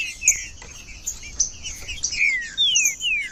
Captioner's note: trinca ferro cantando